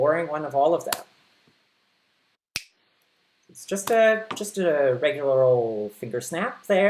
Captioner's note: finger snap